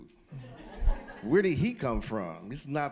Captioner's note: audience laughing